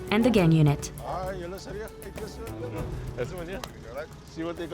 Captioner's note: xhosa spoken audio